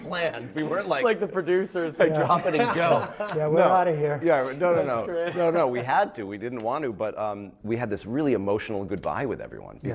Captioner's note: laughter